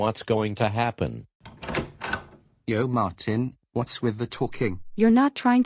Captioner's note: door open